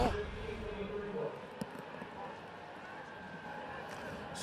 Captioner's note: pa announcement